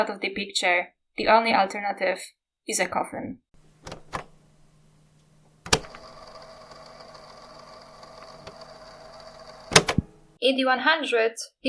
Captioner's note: cassette sound